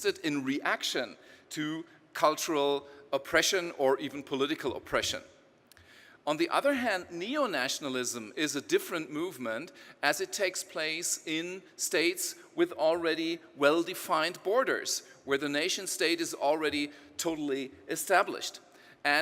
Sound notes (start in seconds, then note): none